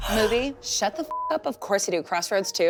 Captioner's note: beep